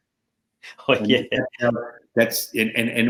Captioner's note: chuckling